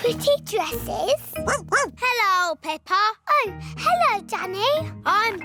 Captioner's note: barks